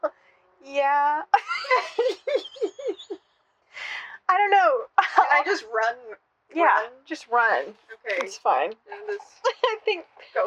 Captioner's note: cracking up